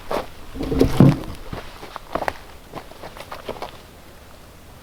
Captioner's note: log thudding